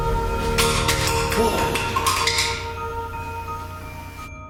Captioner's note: clinking noise